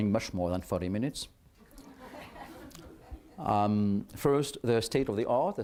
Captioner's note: laughter